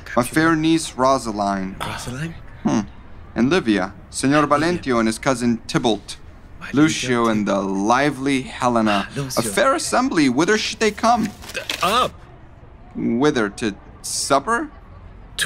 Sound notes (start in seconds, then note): 10.6 paper rustling